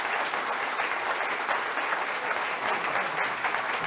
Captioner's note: audience applauds